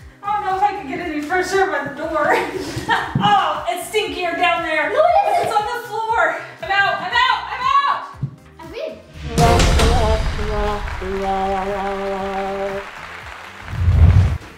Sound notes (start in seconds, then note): 9.2 sad horn noise